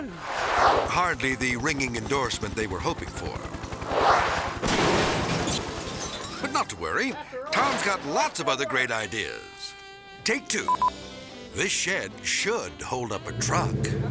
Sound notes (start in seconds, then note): 3.9 zoom-in whooshes; 4.6 shed crashing; 10.7 camera beeping